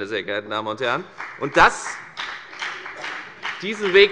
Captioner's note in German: Beifall bei der FDP